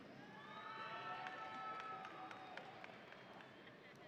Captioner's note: audience cheering